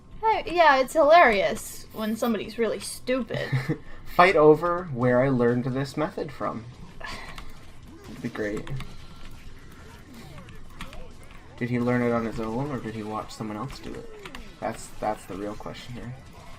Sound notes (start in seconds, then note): 3.4 chuckles; 7.0 sighs